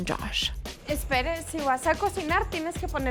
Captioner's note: both speaking Spanish